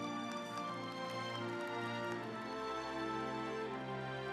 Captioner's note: audience applauds